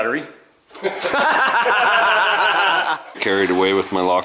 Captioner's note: laughing